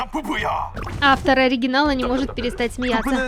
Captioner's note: the original writer can't stop laughing